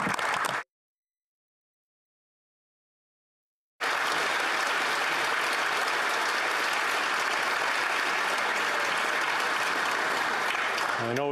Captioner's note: speaking alternate language; applause